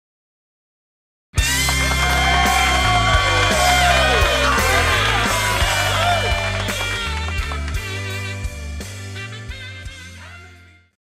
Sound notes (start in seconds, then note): 1.3 upbeat rock music; 1.4 crowd cheering and applauding